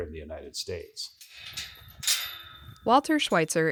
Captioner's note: corral clanks